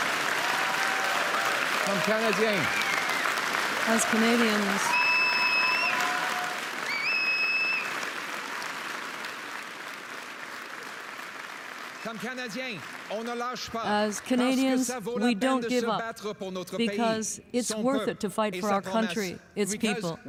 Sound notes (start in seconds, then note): 7.2 applause; 8.3 speaking French